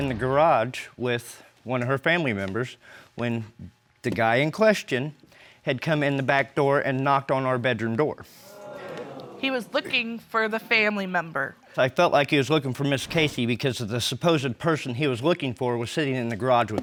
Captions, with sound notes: with one of her family members when the guy in question had come in the back door and knocked on our bedroom door. (AUDIENCE EXCLAIMS) He was looking for the family member. But I felt like he was looking for Ms. Casey because the supposed person he was looking for was sitting in the garage with me.